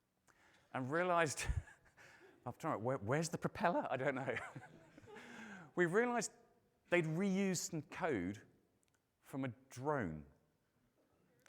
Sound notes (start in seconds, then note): 4.3 laughs; 4.3 audience laughing